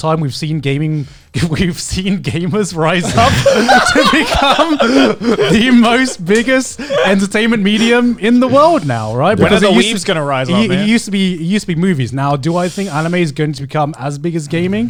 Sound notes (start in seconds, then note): 2.8 hosts laughing